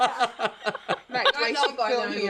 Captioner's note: laughter